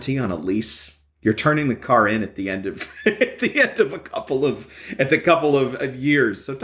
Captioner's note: laughing